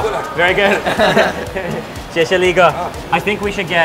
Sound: laughing

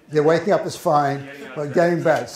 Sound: voiceover

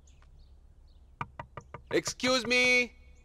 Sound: door knocking

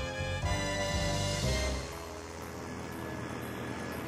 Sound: propeller whirring

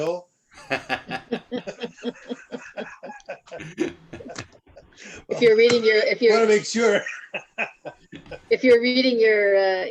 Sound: laughter

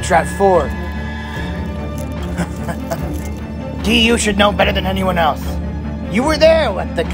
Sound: laughs

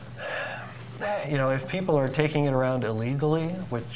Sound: sighs

